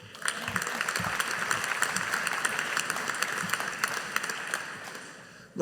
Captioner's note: audience applauding